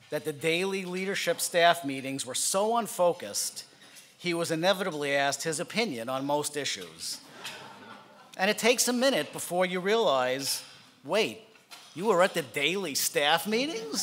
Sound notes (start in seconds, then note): 7.3 laughing